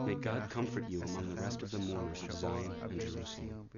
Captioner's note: speaking Hebrew